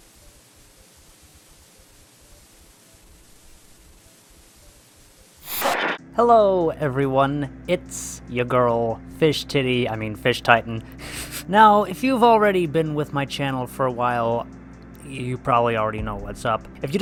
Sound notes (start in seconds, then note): 5.4 static sound effect; 11.0 laughs